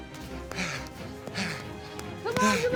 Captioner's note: panting